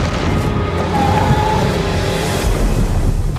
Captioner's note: dragon screeches